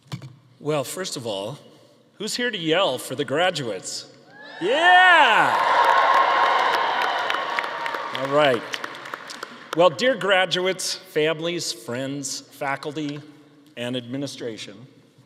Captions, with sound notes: - Well, first of all, who's here to yell for the graduates? (audience cheering) Yeah. All right. Well, dear graduates, families, friends, faculty, and administration,